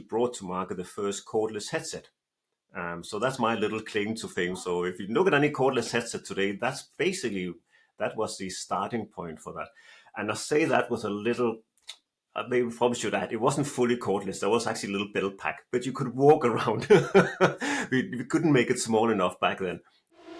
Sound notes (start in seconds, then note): 16.8 laughs